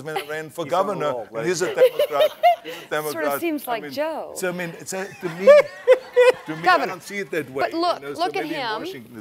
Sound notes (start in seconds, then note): 1.6 laughing; 5.0 audience laughing